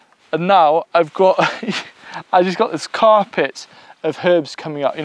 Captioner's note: laughing